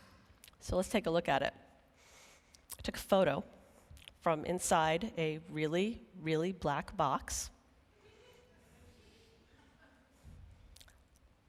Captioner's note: laughing